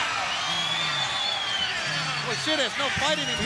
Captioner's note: crowd cheering